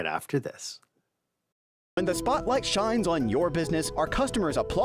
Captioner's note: voice-over